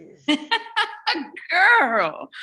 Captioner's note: laughs